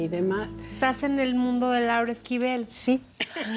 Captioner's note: speaking Spanish; laughter